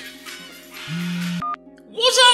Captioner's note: beep